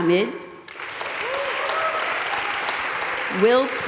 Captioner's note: audience cheering and applauding